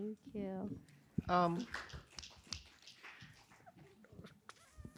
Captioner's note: applause and cheering